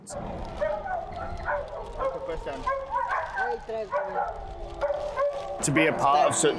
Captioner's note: quietly converses with locals, dogs barking